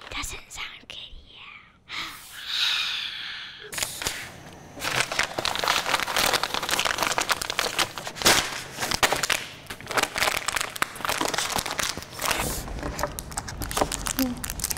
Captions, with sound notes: Doesn't that sound good, yeah. (exhaling loudly) (bags crinkling)